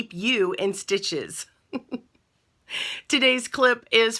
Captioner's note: laughing